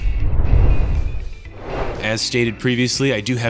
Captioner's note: whoosh sound effect